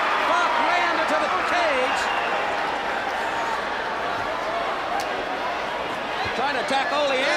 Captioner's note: crowd chatter